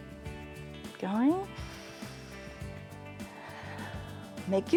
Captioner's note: inhales and exhales